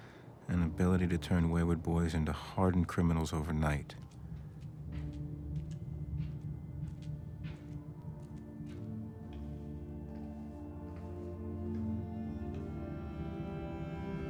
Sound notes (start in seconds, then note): 3.6 feet pattering; 9.4 somber music